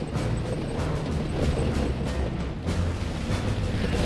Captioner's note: tank engine whirring